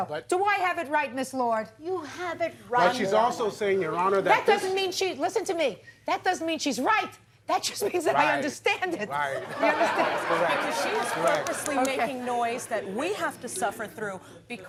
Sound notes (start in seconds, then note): 9.4 audience laughs; 9.4 laughs